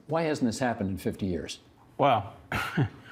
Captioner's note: chuckling